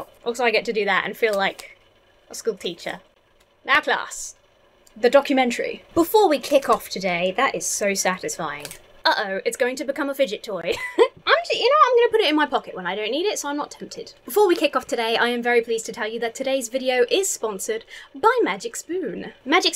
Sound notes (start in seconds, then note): 10.7 chuckles